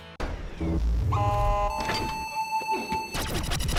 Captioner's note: robot Noises